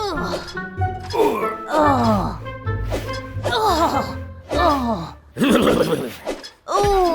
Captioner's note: sounds of Reggie and Donna engaging in a strenuous workout